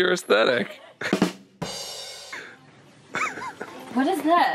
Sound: laughing

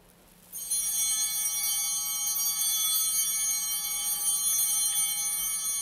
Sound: bell ringing; bell continues ringing

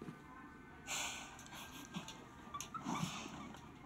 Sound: laughing quietly

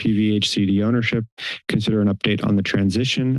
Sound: inhales

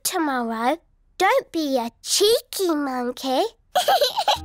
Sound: giggles

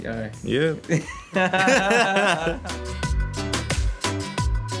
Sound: both laughing

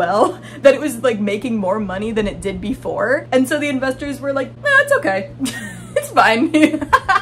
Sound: laughing

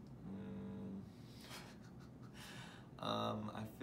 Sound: chuckling

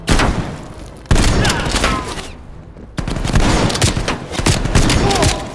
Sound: gunshots

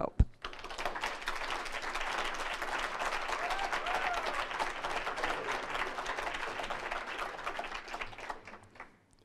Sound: applause

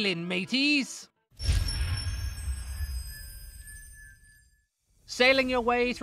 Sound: theres a fancy boom sound here that trails off

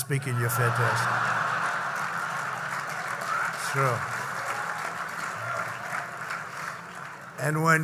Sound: laughter and applause

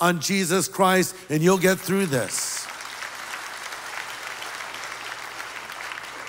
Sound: applause

